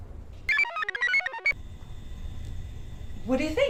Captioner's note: computer chirps